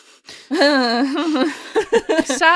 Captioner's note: laugher